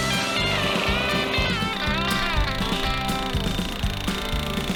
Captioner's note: drilling sounds